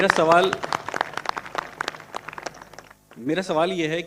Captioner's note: claps